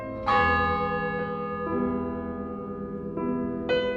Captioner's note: a funeral toll. piano continues